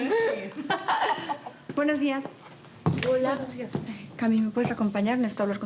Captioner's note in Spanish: risas